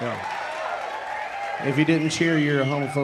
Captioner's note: audience cheering and applauding